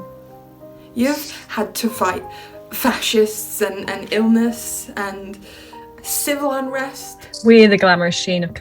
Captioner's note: Sketch audio plays